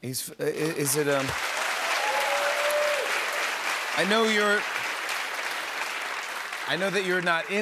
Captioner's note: cheers and applause